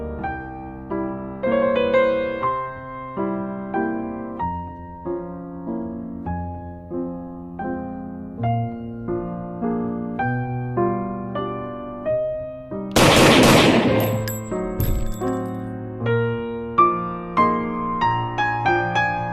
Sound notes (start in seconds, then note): 12.9 gunshots; 14.7 body drops to ground